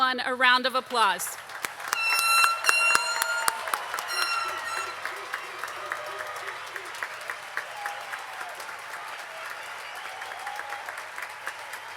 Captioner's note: applause